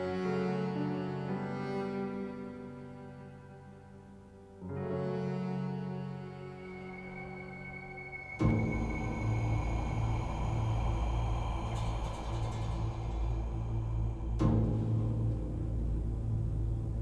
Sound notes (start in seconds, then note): 6.2 suspenseful music; 8.6 heavy breathing